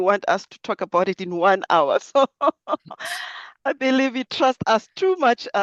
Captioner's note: laughs